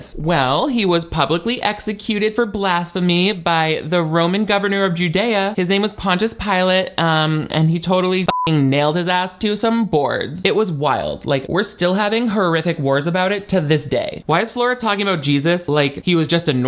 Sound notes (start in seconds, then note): 8.2 beep